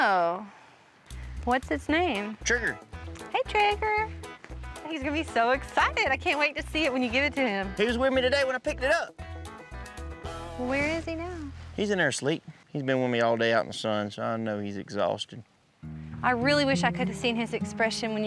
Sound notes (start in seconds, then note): none